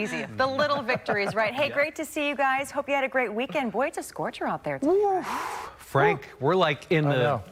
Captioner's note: laughter